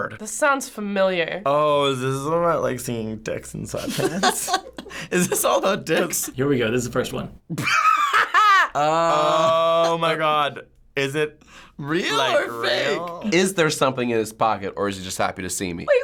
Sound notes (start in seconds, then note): 3.8 laughing; 7.5 snickering